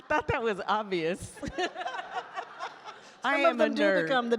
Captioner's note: all laugh